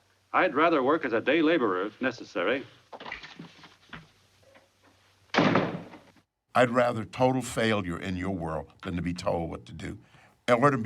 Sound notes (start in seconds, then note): 5.3 door slams